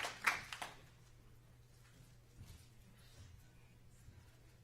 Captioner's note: applause